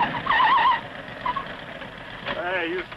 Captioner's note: tires screeching